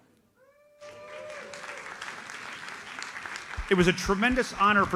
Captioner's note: audience applauds